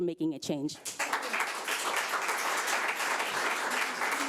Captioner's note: audience applauds